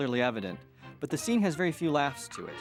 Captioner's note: none